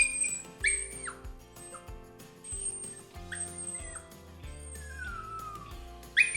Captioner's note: Sophie cries continuously